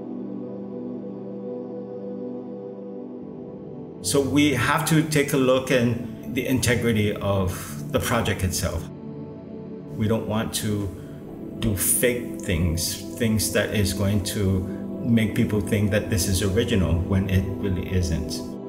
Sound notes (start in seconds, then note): none